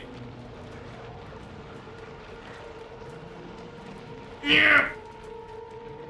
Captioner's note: grunts